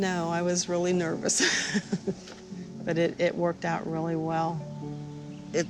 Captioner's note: laughs